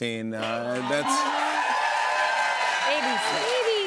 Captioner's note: cheers and applause